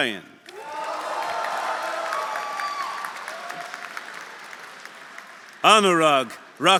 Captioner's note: audience cheering; audience applauding